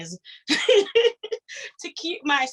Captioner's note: laughs